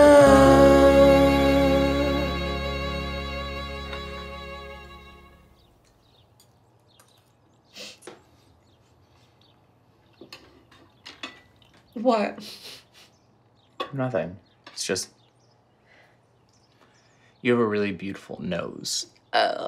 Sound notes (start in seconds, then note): 6.5 birds chirp; 12.9 chuckles